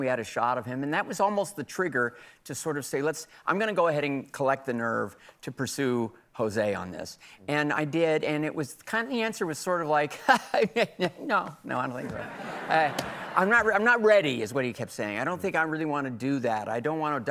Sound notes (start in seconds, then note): 12.8 laughs